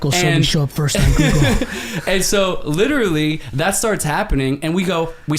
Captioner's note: laughs